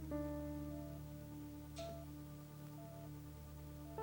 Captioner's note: machine beeping